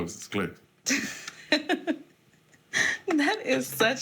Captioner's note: laughs